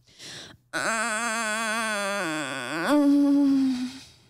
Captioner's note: groans